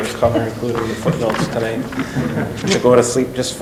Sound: laughing

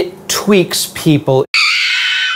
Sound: scream

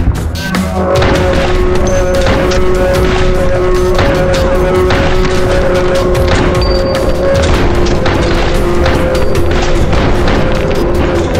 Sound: slow motion yelling

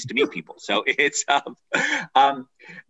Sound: laughs

